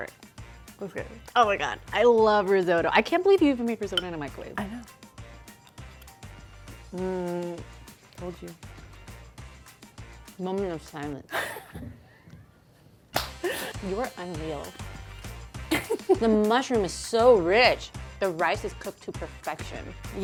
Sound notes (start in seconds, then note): 5.6 upbeat music; 7.2 moans; 11.4 laughs; 15.7 laughs